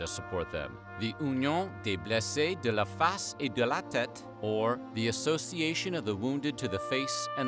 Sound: non-english speech

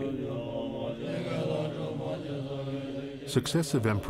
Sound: men chanting in foreign language

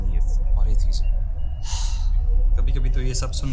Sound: deep Sigh

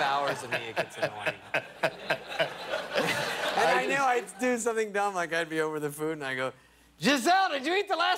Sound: laughter

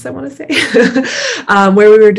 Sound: laughs

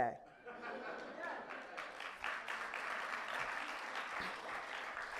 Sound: audience clapping

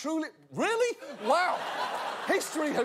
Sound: audience laughter

